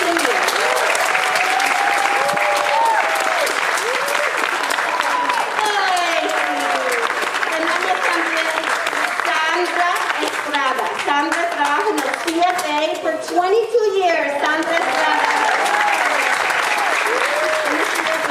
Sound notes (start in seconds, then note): 0.2 audience applauding; 8.0 speaking in foreign language; 14.4 audience applauding; 18.1 speaking in foreign language